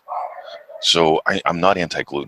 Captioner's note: dog barking